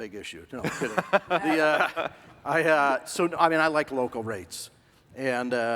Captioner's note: laughing